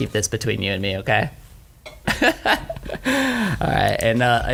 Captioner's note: laughing